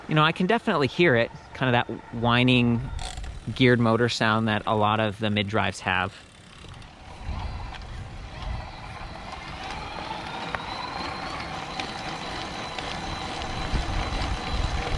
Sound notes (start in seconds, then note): 7.6 motor whirring; 11.4 motor whirring faster